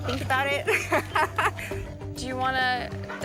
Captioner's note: laughs